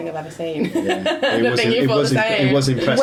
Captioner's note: laughing